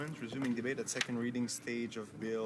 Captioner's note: speaking in french